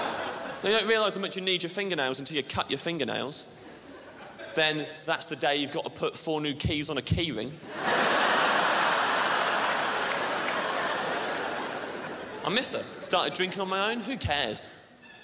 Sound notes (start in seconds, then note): 0.0 crowd laughs; 7.6 crowd laughs